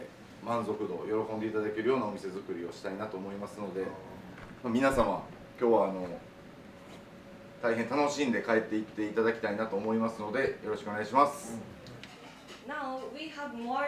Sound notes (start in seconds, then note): none